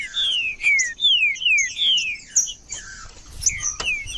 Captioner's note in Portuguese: trinca ferro cantando